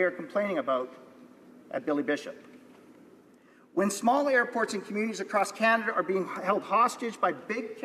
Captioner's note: none